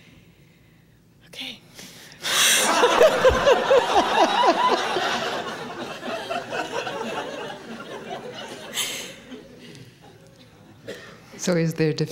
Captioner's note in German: Lachen